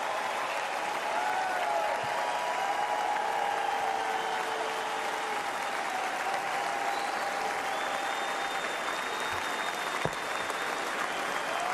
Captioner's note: applause